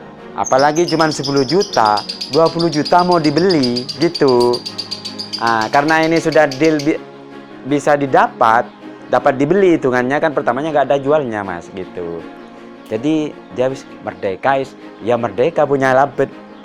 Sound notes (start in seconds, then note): 14.0 indonesian language